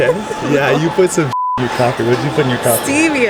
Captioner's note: beep